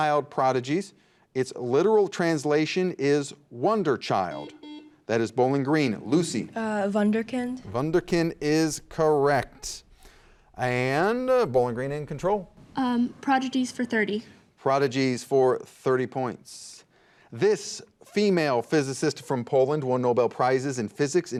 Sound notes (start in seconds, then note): 4.2 buzzer beeps